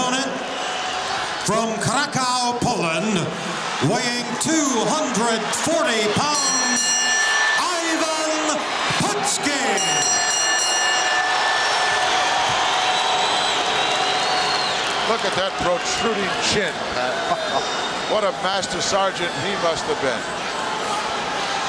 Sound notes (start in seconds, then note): 6.0 bell ringing